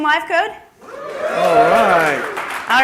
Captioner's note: applause